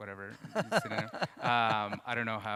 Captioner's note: interviewer laughs